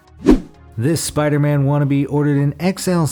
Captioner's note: air whooshes